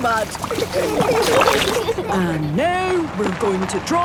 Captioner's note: giggling